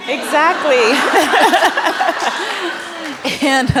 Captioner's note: laughter